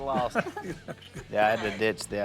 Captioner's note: family laughs